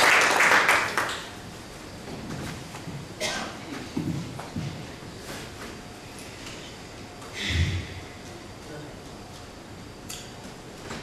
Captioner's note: applause